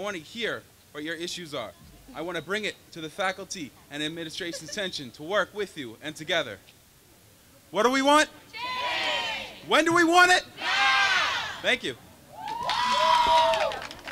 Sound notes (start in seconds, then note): 10.5 crowd; 12.3 cheering